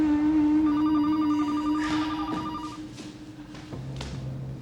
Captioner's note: phone rings